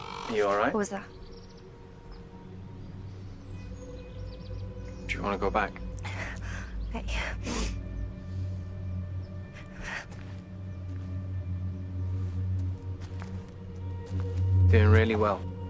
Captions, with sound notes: -Are you all right? -What was that? Do you want to go back? Nay. [breathes shakily] Doing really well.